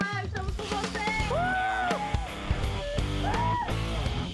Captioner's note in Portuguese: grita; gritando